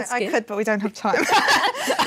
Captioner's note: laughter